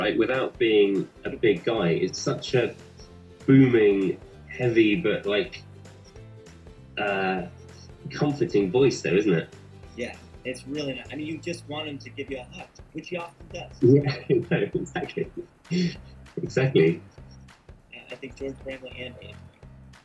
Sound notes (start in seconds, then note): 13.6 chuckles